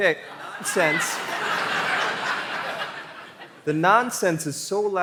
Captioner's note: laughter